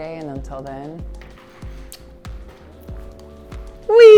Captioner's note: kiss